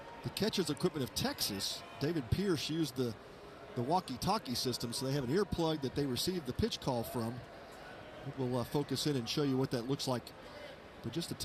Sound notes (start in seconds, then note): none